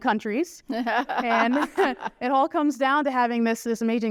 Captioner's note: laughter